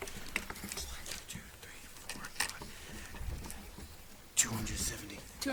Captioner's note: contestants whisper